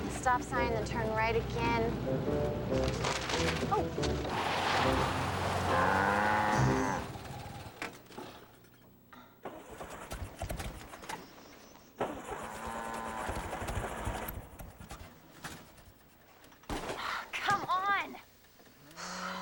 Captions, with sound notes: STOP SIGN, THEN TURN RIGHT AGAIN. OH! [ COW MOOS ] [ ENGINE SPUTTERING ] OH, COME ON!